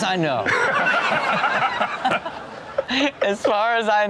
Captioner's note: cohost and audience laughs